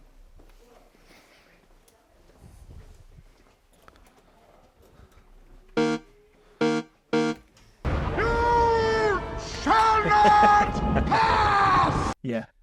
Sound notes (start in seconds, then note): 5.7 fail buzzer rasping; 10.1 chuckling